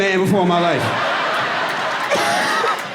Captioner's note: laughs